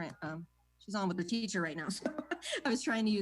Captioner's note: laughs